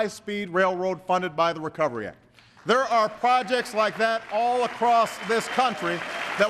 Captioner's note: applause